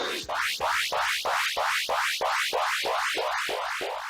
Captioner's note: laughs; game beeping